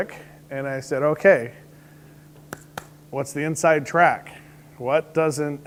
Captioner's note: claps